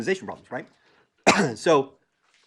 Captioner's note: cough